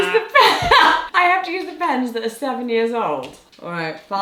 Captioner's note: laughs